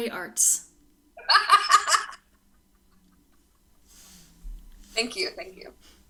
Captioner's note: laughs